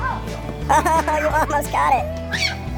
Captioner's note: lively music; tape sped up